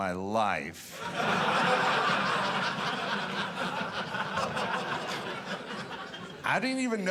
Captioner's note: audience laughing